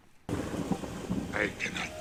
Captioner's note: raining